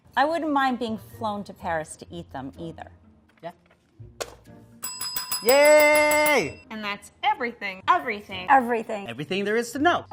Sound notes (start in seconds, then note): 4.8 bell ringing